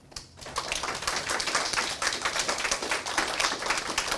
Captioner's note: applause